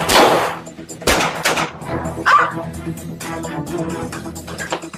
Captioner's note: gunshots